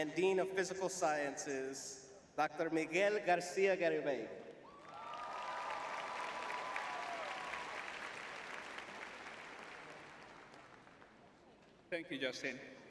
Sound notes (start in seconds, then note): 4.6 cheering; 6.8 applause